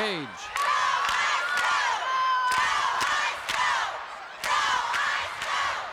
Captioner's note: crowd chants "Go, Ice, go"